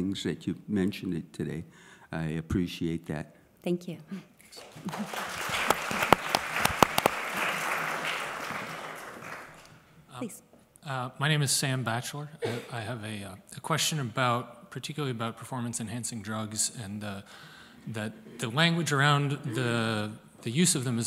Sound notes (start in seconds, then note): 4.4 applause